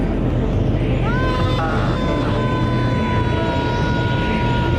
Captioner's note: uncanny music; man screams